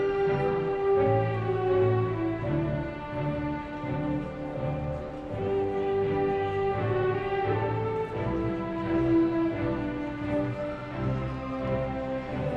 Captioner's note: cheering